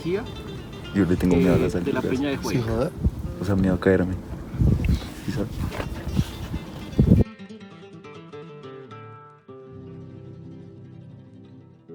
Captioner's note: laughs